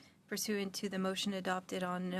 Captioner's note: speaking French